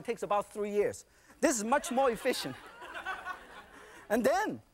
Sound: audience laughing

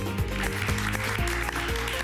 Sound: applause

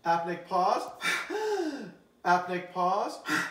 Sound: exhales briefly, then inhales rapidly

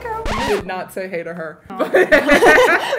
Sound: record scratch; laughter

